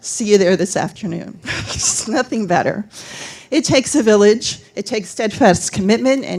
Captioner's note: laughter